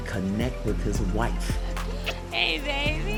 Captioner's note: smooches